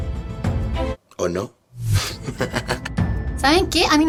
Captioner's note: evil laugh